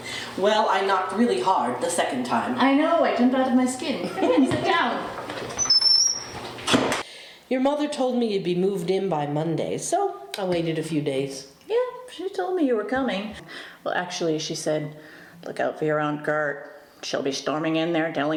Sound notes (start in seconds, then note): 5.2 door creaking